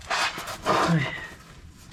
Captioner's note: sigh